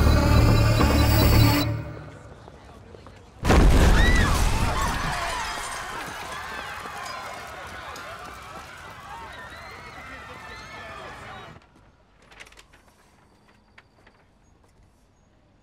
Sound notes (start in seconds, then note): 3.4 door explodes; 3.8 bystanders scream